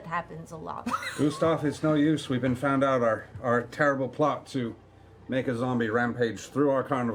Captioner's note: deadpan